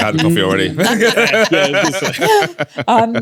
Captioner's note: laughing